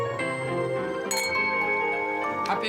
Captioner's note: glasses clanking